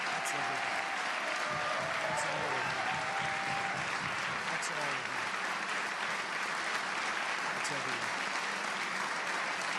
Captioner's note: applause